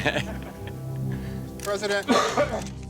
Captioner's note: chuckling; coughs